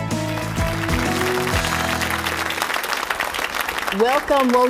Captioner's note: applause